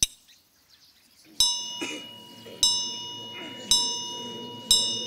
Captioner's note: bell tolling